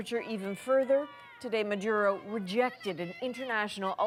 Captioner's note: speaking spanish